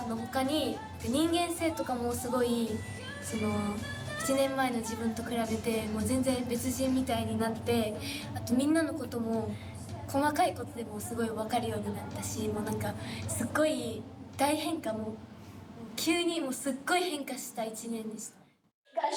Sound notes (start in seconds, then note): 0.7 speaking in foreign language